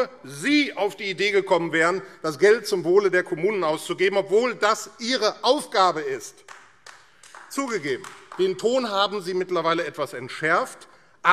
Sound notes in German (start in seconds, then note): 6.4 Beifall AfD